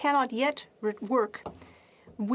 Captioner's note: speaking French